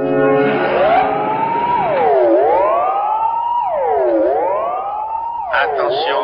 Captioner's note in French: Alarme; Voix Robotique Masculine